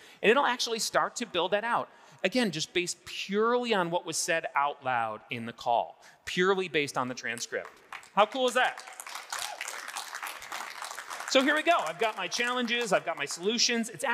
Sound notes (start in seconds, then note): 7.6 audience applauding